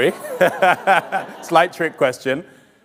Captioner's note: all laughing